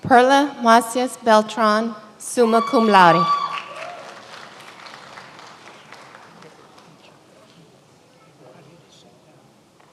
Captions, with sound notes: Perla Masius Beltran, summa cum laude. (many applauding)